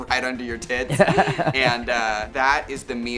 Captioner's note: Baga chuckles